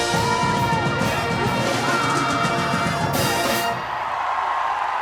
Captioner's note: applause